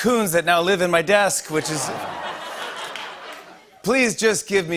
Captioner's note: laughter